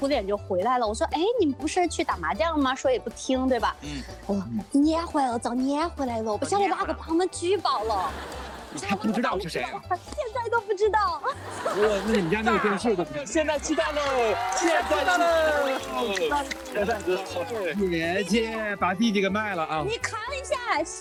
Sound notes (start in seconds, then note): 16.9 happy audience